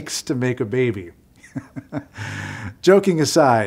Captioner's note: laughing